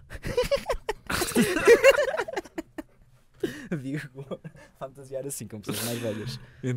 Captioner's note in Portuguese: risos